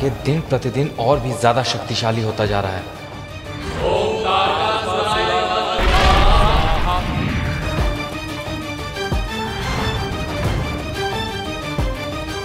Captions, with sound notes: 'is growing powerful with each passing day.' [chanting]